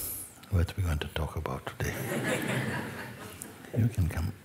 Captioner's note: Lachen